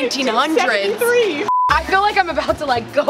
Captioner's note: high pitched beep